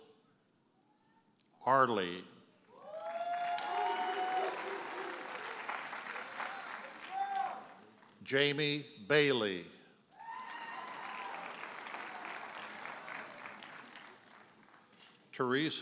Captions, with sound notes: Mitchell Harley. (audience cheers and applauds) (audience member hollers) Jamie Bailey. (audience cheers and applauds)